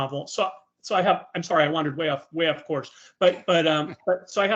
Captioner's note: laughing